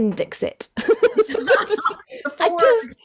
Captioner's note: both laugh